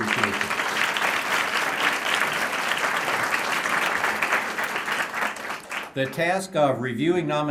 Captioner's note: applause